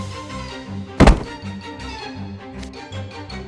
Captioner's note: thud!